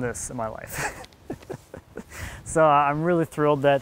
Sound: laughing

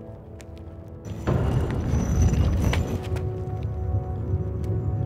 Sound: stone door rumbles

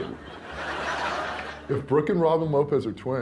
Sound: crowd laughing

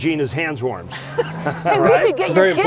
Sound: laughter

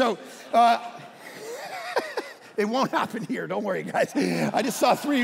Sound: all laughing

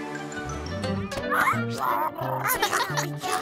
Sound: squeaking

